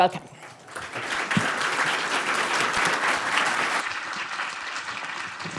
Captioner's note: audience applauding